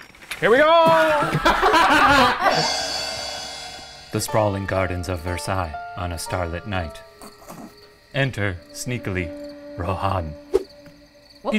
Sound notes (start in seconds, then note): 1.0 laughing; 2.1 gong crashes; 7.3 stifles laugh